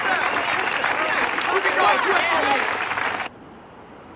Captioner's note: chattering